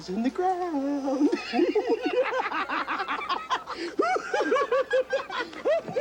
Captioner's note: both laugh ridiculously